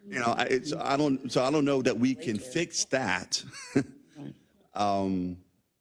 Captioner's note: laugh